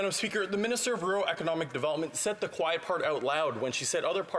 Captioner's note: none